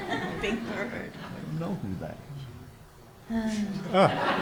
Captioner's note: audience laughs; laughing; audience laughs